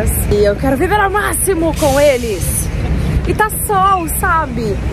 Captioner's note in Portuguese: none